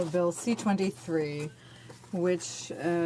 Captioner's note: speaking french